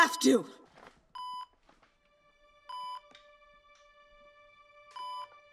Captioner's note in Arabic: صفير